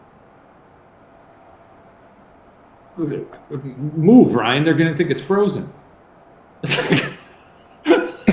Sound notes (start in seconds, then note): 3.0 stammering; 6.6 laughing